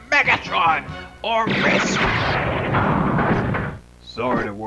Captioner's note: laser fire, Megatron gets hit and knocked down